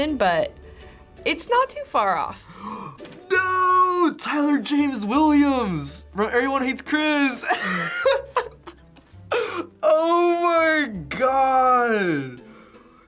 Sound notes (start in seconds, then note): 2.4 gasps; 7.3 laughs